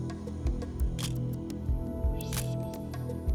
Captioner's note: camera shutter click